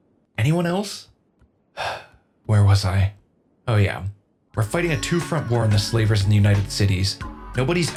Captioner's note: sighs